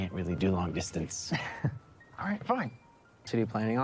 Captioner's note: Evererett chuckles